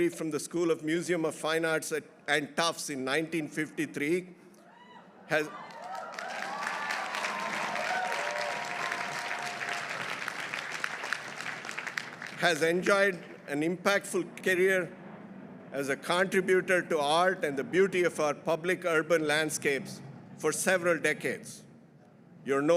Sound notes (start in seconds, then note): 5.3 audience cheering; 5.4 audience applauding